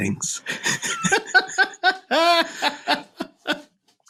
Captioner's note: laughing